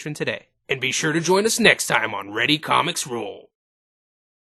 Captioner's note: Dragon Ball Narrator Voice